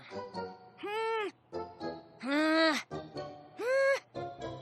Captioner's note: sighs